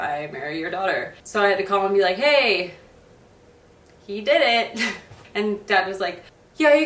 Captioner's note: laughs